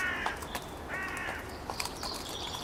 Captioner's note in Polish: stukot kopyt